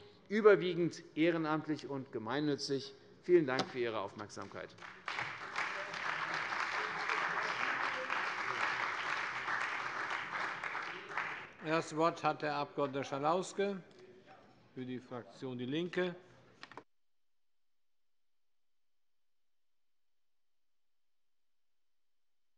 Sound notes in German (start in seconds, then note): 4.4 Beifall bei der CDU und dem BÜNDNIS 90/DIE GRÜNEN